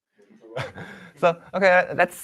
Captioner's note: chuckles